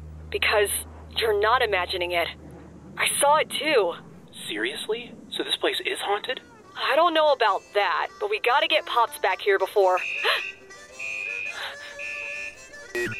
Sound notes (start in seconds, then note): 9.9 alarm blares; 11.5 gasps